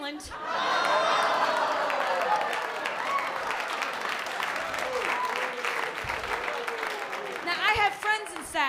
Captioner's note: laughter